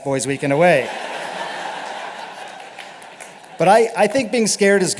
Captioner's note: laughter